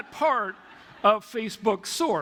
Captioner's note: laughter